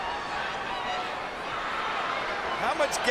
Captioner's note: crowd chattering